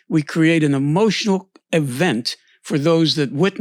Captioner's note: none